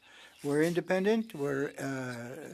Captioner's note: speaking french